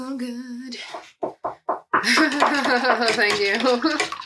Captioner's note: cat knocks on the table